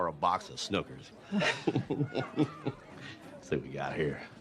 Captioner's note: chuckles